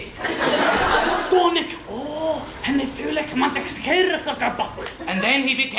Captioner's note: full of amazement, in “Czech”